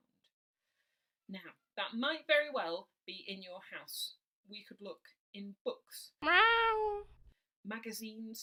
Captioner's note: miaow